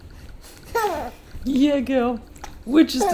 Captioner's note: baby laughing